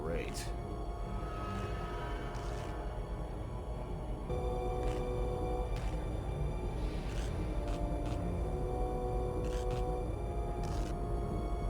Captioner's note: sirens